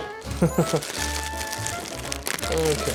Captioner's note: laughs